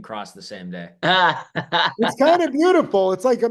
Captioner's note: laughing